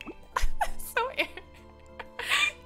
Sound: laughs

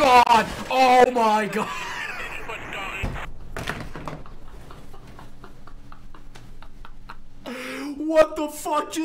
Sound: laughs

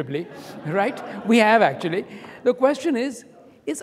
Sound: audience applauding

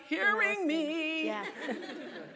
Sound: laugh

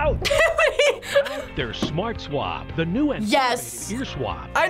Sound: laughing; voice-over

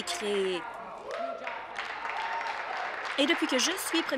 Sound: applause

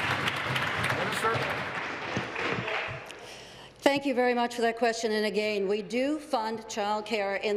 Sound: applause

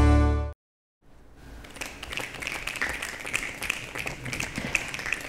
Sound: applause

